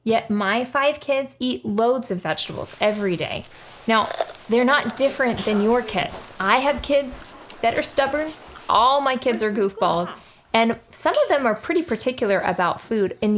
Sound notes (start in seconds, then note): 4.0 kid crunching loudly